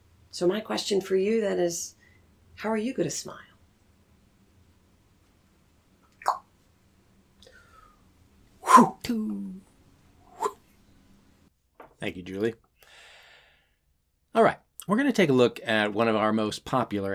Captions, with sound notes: So my question for you then is how are you going to SMILE? [makes sound of getting the ball, then throwing] [makes catching sound] Thank you Julie. Alright, we're going to take a look at one of our most popular activities